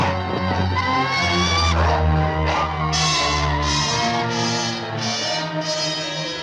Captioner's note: ominous music continues; bird squawking